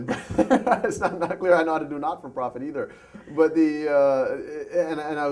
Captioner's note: laughter